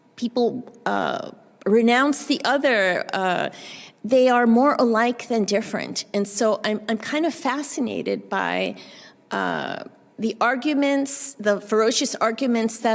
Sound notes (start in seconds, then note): none